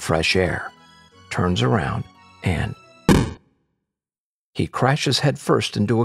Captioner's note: thud